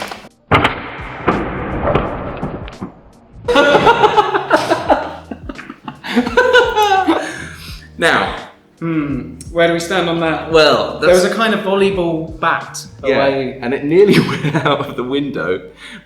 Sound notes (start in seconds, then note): 3.4 laughter